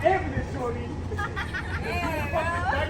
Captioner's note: women laughing